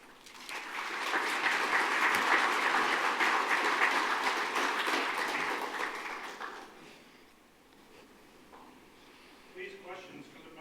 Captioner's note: applause